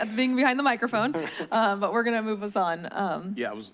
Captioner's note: chuckles